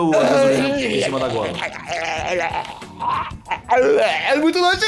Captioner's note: blergh